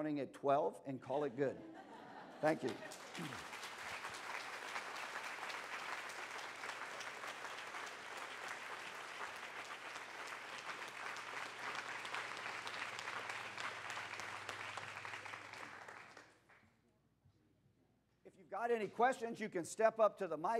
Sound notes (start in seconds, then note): 2.4 applause